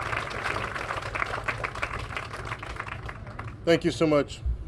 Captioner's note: applause